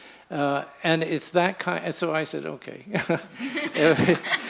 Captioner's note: laughs